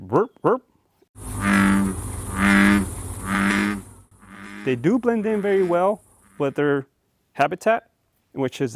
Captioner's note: frog croaking